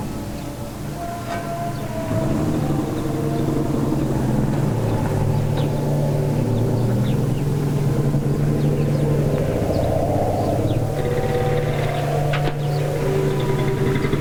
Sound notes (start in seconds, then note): 2.0 car engine revving